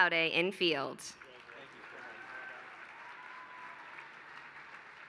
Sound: applause

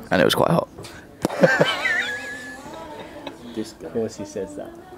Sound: guys laugh

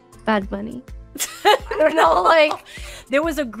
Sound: laughing

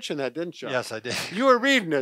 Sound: chuckles

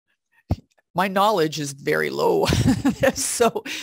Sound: laughs

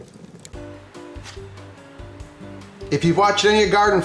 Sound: soft guitar music; paper rustling

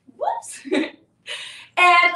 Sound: laughs

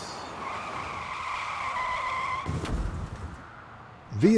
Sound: vehicle skidding and crashing sounds

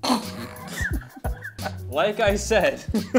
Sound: coughs; laughs

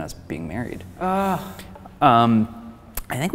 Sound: groans

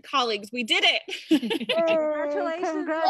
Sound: laughing

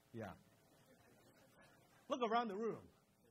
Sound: crowd laughs

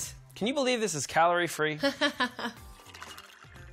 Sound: chuckles

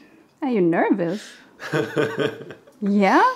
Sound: laughing

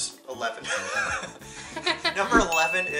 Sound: both laugh

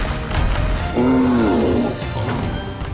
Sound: growling

